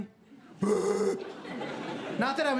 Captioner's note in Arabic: زئير